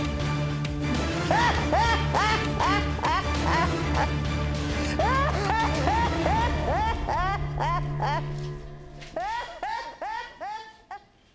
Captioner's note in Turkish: Pis bir kahkaha ile güler